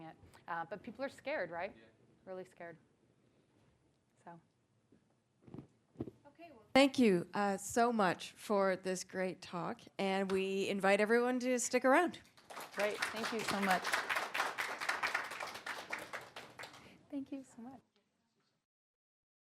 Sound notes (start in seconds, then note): 13.8 applause